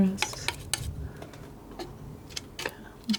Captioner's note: tapping